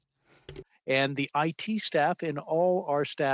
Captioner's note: speaking French